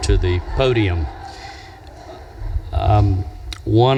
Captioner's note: audience laughs